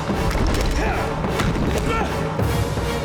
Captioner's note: grunting